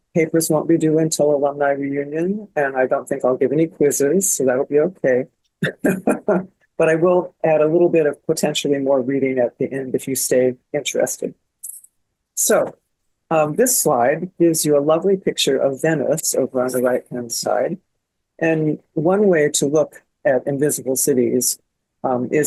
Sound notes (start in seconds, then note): 5.6 laughs